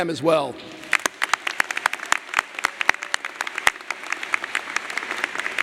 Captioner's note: audience applauding